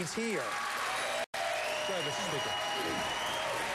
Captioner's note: applause